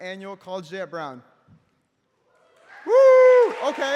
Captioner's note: applause